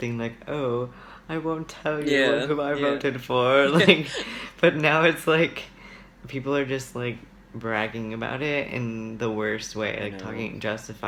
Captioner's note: laughs